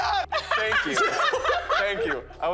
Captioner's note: Trisha & MatPat laughing